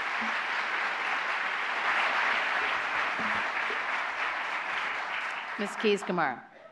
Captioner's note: applause